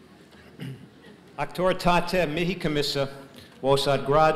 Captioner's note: speaking latin